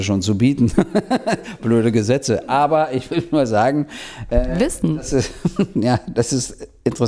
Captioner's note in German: Lacht